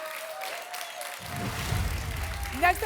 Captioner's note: applause and cheering